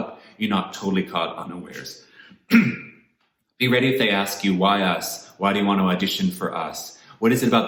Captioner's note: cough